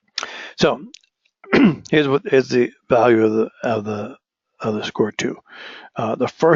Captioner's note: cough